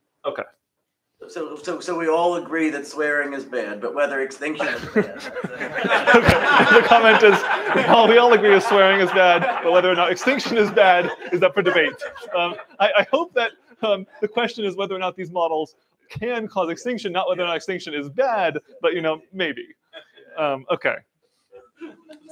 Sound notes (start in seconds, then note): 5.3 laughing